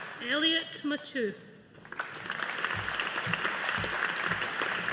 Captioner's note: audience applauding